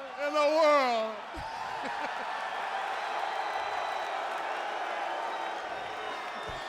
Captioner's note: chuckles; audience cheers